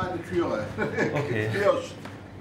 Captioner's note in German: Kretschmann lacht